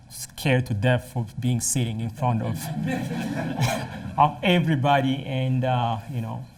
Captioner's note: laughter